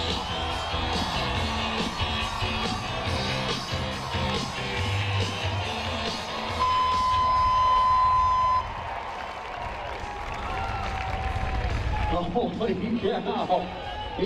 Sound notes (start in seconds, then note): 0.0 upbeat music; 6.4 siren beeps; 9.2 crowd applauds